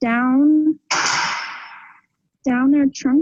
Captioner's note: cage clanking